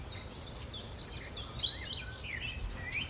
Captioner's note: birds are tweeting